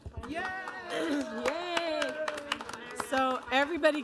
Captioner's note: audience applauding